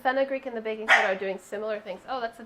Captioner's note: dog barking